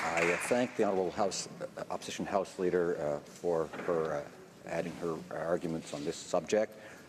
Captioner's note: applause